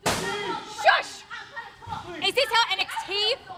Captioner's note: screaming